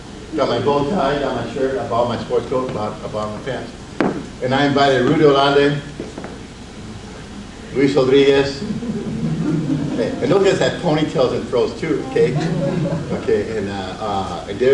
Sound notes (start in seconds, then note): 8.4 audience laughs